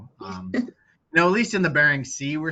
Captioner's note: chuckling